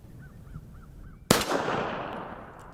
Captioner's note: pistol fires